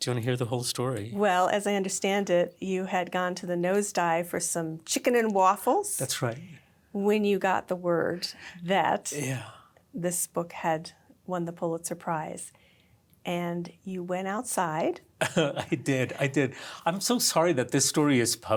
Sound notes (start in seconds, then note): 15.2 laugh